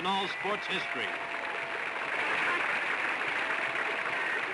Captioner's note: applause